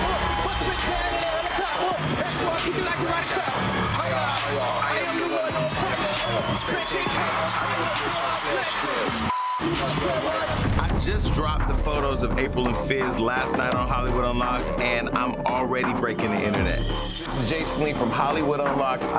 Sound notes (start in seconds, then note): 9.2 beep